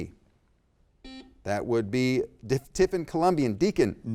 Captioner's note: buzzer beeps